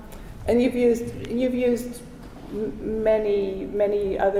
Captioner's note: none